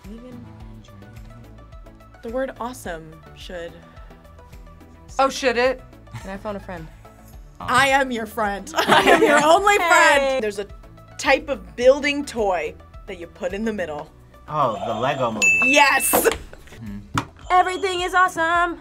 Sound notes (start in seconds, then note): 8.7 both laugh; 14.7 buzzer rings